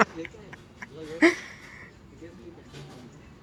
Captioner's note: laughing